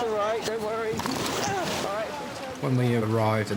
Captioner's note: none